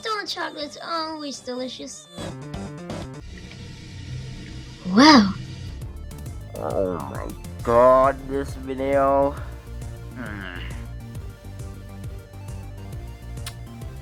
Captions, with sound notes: Oh my God, this video.. *groan of cringe*